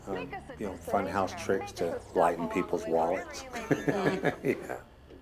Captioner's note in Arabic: يضحك